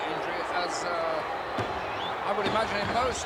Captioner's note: crowd clamoring; hands thudding